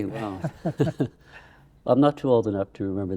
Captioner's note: laughing